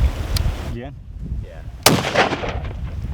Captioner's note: gun shot